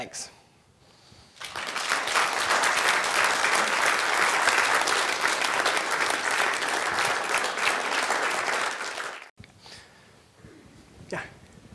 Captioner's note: applause